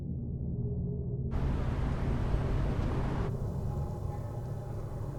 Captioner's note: car engines revving